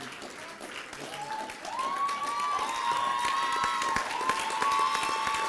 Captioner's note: applause and cheering